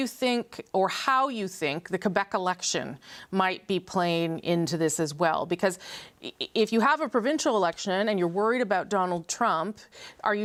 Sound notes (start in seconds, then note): none